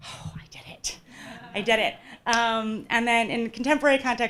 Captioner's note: audience laughing